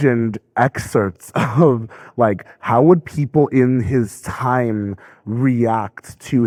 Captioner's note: laughing